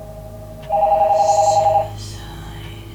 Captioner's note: sound of phone ringing